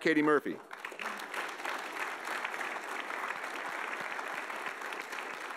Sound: audience applauding

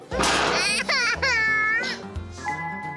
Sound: crying

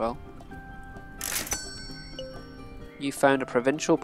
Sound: cash register dings

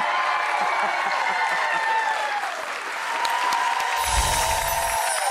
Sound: audience cheering and applauding

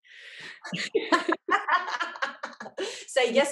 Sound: laughs

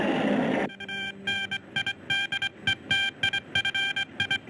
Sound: planes roaring; telegraph beeping

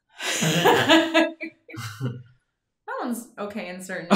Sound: laughing

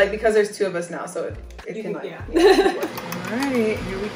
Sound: laughs

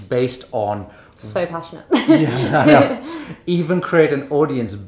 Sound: laughing

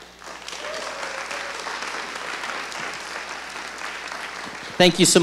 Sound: audience applauding

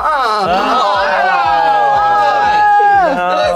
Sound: shouting

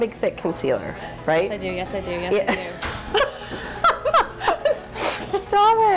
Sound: laughs; laughing

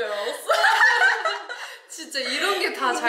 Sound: laughing

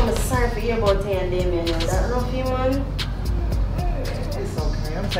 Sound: indiscernible chatter

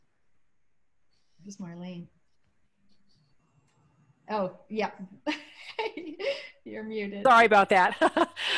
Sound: laughter

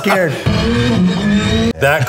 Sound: engine sounds

